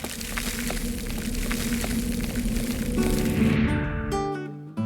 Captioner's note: whooshing sound